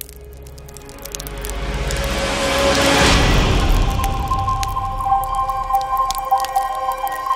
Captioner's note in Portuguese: Crepitação